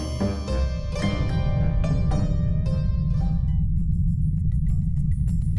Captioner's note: volcano rumbling